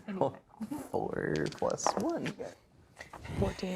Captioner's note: chuckling; dice rolling